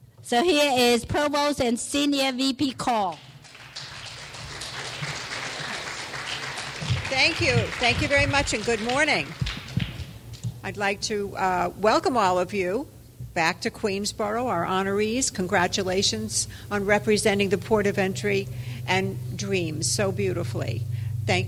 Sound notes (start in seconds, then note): 3.0 clapping